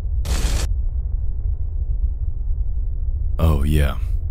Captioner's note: static crackles